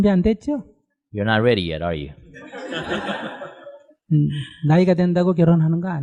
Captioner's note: audience Laughter